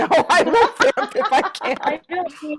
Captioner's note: laughing